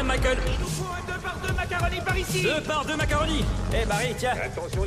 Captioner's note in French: brouhaha des chantiers